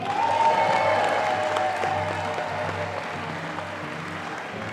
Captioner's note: audience applauding